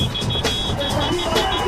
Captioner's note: motorcycle honking